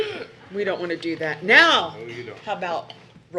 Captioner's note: laughing